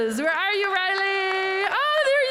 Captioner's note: applause